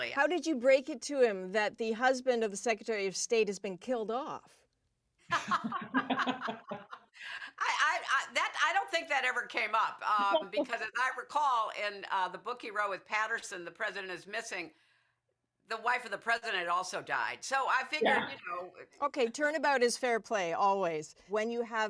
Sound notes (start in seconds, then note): 10.1 laughter